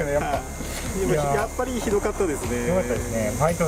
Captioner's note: laughs